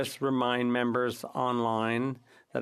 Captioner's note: speaking French